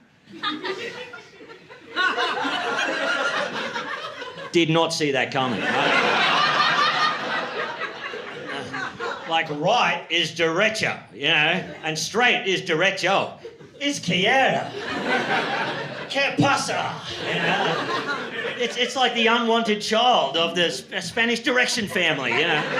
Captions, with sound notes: [LAUGHTER] Did not see that coming, right? [LAUGHTER] Like, right is "directure," you know? And straight is "directure." "Izquierda." "Qué pasa." It's like the unwanted child of the Spanish Direction family, you know?